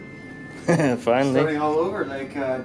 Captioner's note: laughs